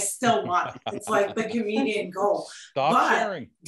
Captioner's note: group laughs